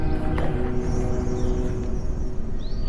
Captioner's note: bear chuffs